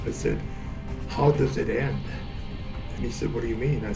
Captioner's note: none